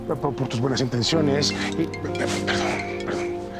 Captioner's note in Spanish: Suena el celular